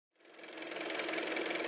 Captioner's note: car motor